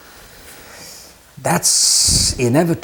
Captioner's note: sigh